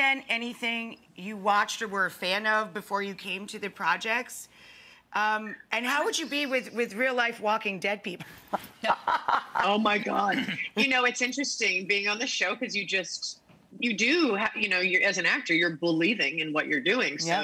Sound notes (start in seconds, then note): 8.5 laughing